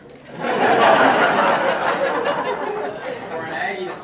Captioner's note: audience laughing